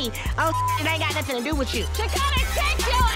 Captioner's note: beep